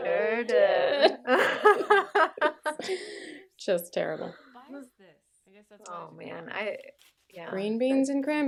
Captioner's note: laughter, then in unison; laughter